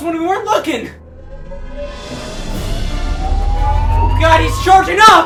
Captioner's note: laser roaring